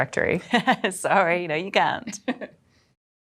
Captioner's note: laughs